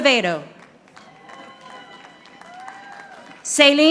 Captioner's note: audience applauding